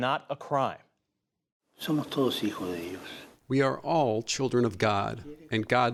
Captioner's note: through translator